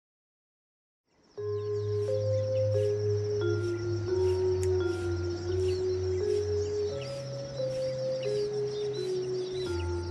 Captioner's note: birds chirping